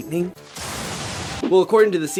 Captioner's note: zap